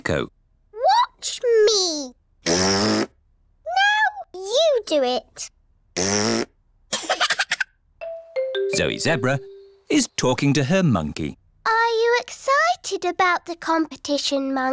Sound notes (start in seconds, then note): 2.4 blows raspberry; 5.2 laughs; 5.9 blows raspberry